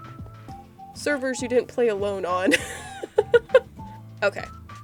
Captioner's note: laughs